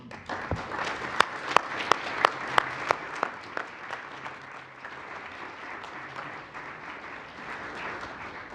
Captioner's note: applause